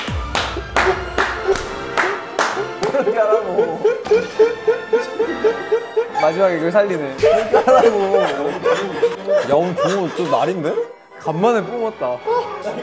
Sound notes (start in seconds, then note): 4.0 crying